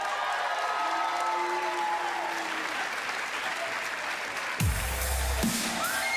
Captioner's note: cheers & applause